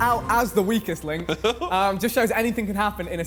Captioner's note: contestant laughs